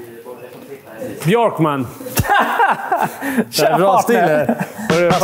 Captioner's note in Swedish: skratt